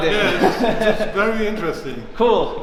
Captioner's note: chuckles